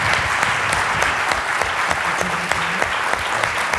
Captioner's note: applause